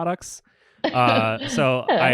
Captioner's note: laughs